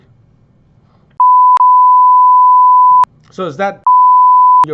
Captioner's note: beep